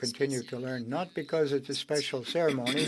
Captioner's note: speaking French